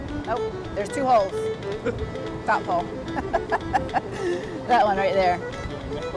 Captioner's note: laughs